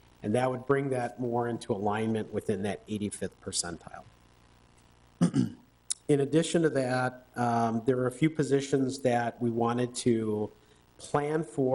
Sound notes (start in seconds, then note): 5.2 coughs